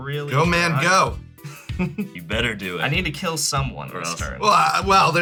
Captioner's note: laughs